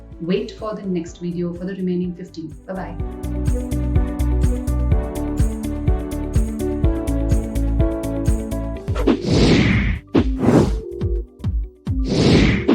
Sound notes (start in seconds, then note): 3.2 upbeat music; 8.9 whooshing